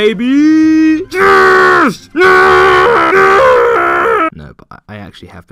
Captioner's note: screams of joy